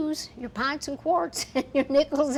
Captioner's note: laughing